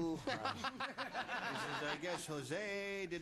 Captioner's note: laughter